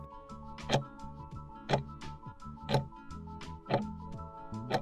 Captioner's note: timer ticking